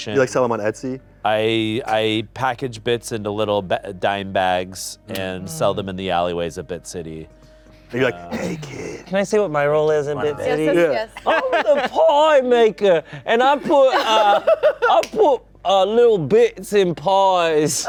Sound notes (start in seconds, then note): 13.6 laughing